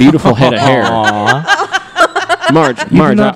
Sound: laughing; laughs

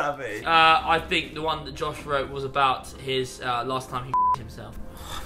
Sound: beep

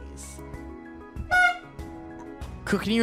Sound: honk

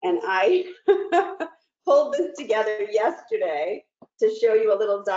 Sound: chuckles

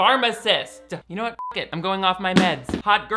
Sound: beep

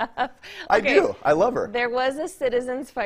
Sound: laughter

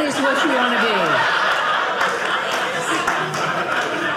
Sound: audience laughing

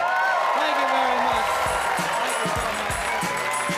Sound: audience cheer and applaud; upbeat music

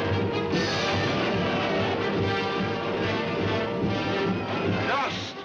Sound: dramatic music; men shouting

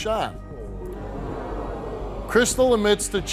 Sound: audience oohing

